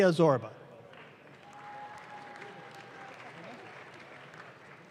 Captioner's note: audience claps